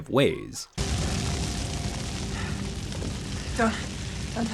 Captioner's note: fire crackling